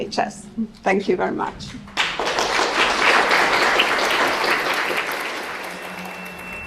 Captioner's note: applause; drone-like music